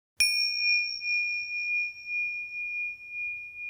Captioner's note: bell chimes